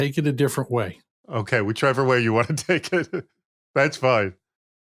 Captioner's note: laughs